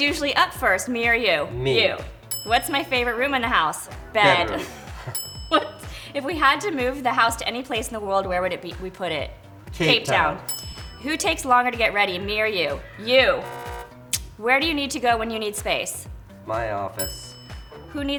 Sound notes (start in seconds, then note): 2.2 bell dings; 5.0 bell dings; 6.7 laughs; 10.2 bell dings; 12.9 buzzer sounds; 17.0 bell dings